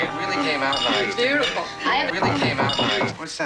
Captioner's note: knock on door